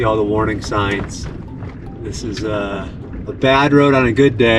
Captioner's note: truck rumbling